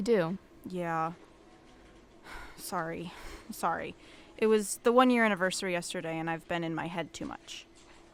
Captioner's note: sigh